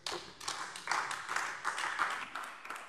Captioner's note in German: Beifall AfD